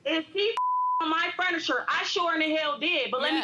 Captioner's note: beep